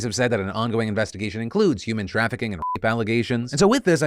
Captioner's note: beep